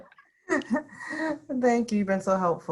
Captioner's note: laughing